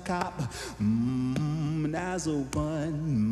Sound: vocalizing

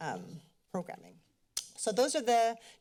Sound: clicks tounge

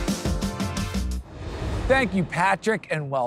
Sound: transition whooshing

